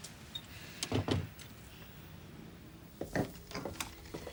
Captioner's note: door closes